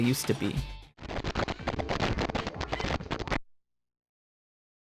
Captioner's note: static; silence